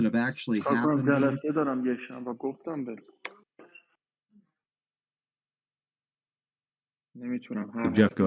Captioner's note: speaking in Foreign Language